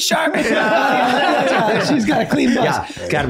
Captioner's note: everyone laughing